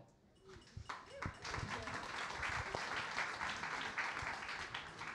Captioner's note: audience applauding